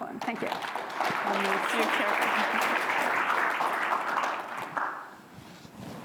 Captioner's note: applause